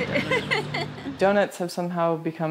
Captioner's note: laughs; woman laughs